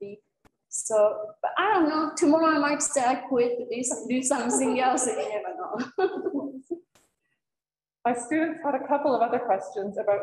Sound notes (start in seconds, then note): 4.4 laughter